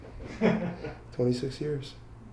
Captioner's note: man laughs